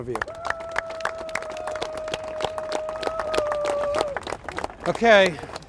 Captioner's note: applause